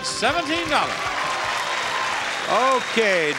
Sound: audience clapping

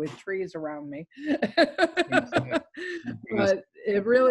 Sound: laughs

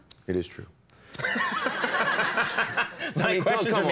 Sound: audience laughing

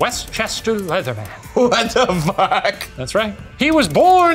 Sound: laughing

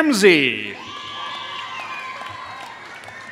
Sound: applause

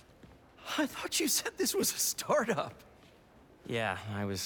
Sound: laughing

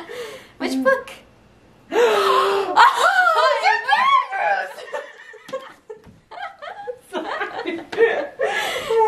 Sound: gasps; lotsss of laughing

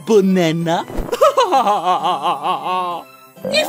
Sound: laughing

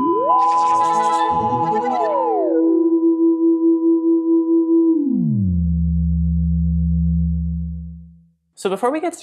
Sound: trippy sounds

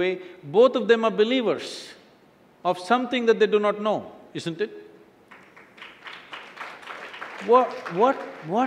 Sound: applause

